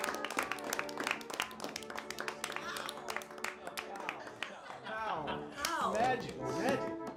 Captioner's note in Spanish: grupo aplauda